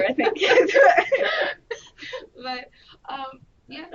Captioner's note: laughter